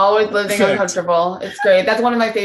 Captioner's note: laughing